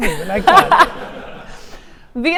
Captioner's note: audience laughing